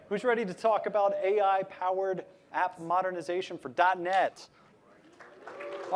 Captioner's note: cheering; cheers